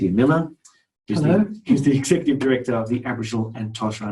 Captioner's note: chuckles